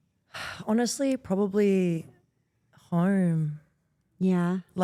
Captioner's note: sighs